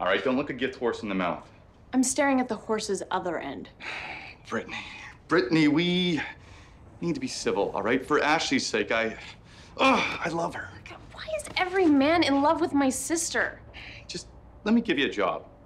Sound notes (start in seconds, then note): 3.8 sighs; 7.0 groans